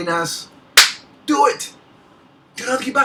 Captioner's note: hands thumping